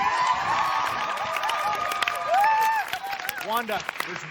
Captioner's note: cheers and applause